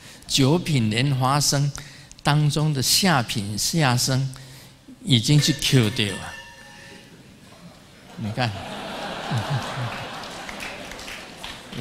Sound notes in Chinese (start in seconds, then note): 6.7 台語